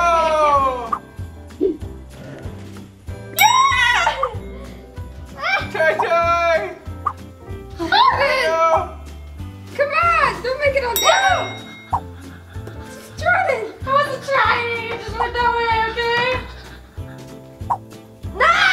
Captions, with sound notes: Ohh! (triumphant bell sound) - Yeah! (cheering) (triumphant bell sound) - This is German! - I'm trying!